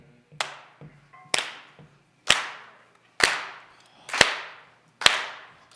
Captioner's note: hands clapping to a steady rhythm